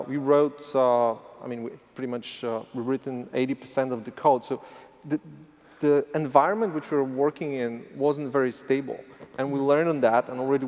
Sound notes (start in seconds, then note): none